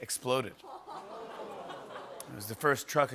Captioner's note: audience "Oohs"